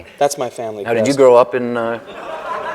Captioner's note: laughter